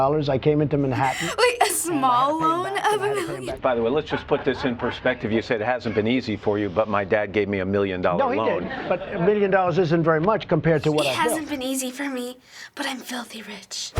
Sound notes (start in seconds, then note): 0.9 giggling; 11.3 sarcastically